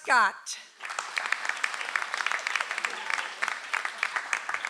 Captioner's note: audience applauds